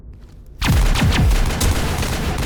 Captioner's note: gunfire